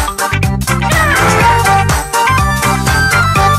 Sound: hal squawks

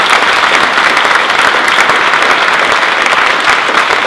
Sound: applause

